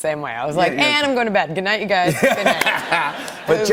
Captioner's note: laughter